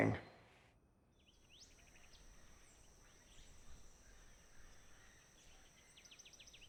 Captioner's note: birds chirping